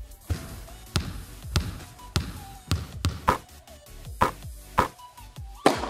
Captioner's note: sounds of basketball